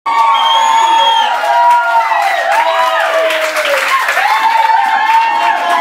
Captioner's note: applause